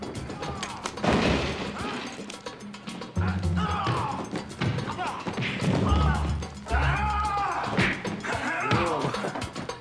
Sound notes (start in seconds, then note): 0.0 men grunting and thudding, items clattering; 4.6 blows landing, grunting; 6.9 man yelling, blows landing